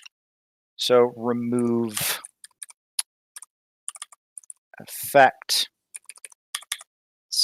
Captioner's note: typing